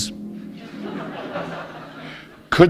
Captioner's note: laughter